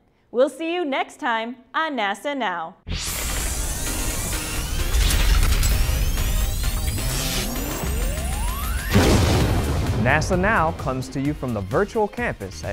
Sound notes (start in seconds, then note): 2.9 sound Effects